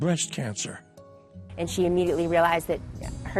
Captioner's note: none